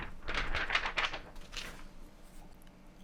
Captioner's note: paper wooshing